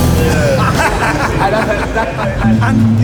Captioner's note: lively chatter, laughter